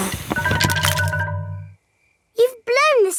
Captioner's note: blowing